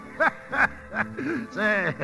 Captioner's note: laughing